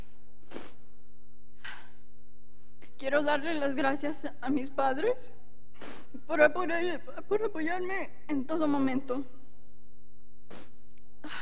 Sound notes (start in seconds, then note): 3.2 speaking in Spanish language